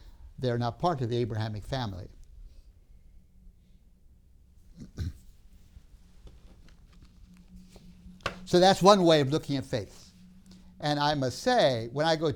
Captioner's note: clears throat